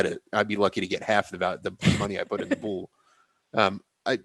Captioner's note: laughs